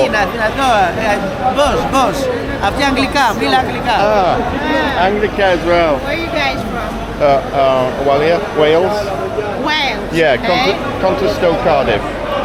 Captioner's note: speaking in foreign language